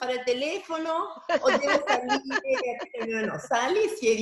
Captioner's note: laughter